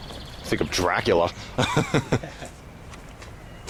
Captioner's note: both Laugh